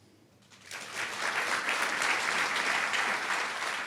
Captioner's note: applause